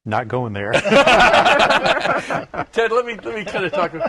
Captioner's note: laughter